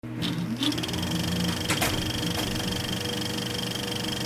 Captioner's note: film projector clicking